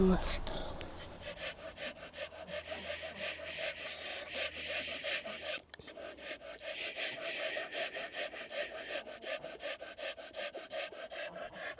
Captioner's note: dog is breathing rapidly and ambient noise